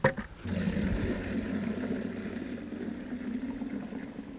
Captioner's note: water pouring